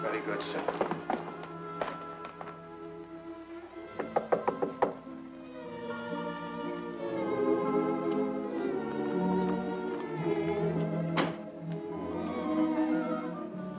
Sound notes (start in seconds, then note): 3.9 knocking; 5.8 pleasant music